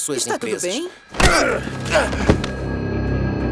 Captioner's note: grunting